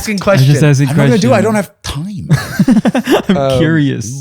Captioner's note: laughter